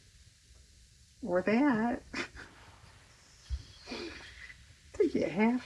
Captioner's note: laughs